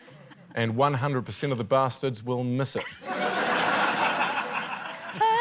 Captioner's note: laughter